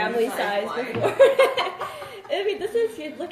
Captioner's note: laughs